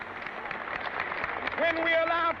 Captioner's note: crowd cheers